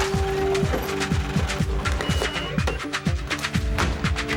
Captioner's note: money counter whirring and beeping; money thudding; suspenseful music